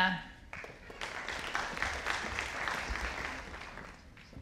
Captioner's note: audience applauding